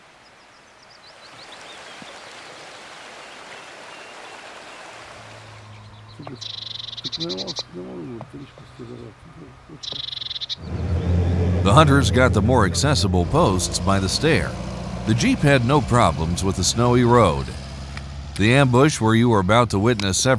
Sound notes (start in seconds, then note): 1.0 rushing water